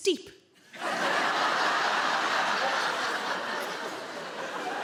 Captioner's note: audience laughing